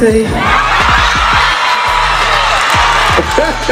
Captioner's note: audience cheering; laughing